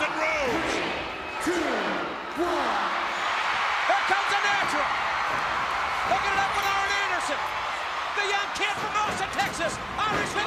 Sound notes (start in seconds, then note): 3.2 crowd cheering